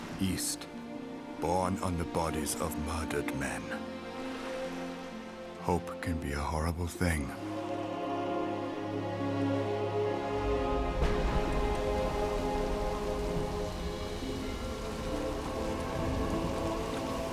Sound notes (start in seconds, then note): 10.5 thunder crashing